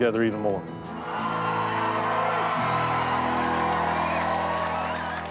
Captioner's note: crowd cheering